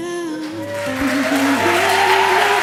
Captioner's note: applause